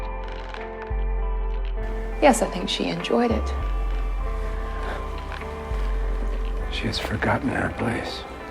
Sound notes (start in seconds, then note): 2.4 voiceover; 4.9 Fred scoffs